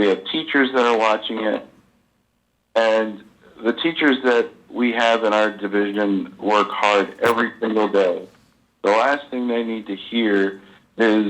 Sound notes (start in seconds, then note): none